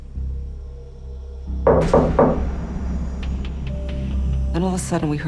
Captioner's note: knocking